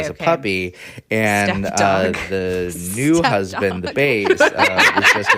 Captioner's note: both cackle